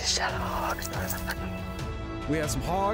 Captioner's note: chuckling